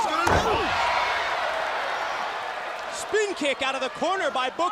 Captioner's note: crowd cheering